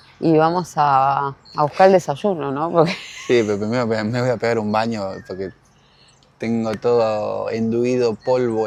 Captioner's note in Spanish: risas